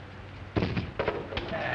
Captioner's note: thudding